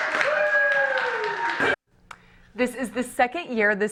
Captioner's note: applause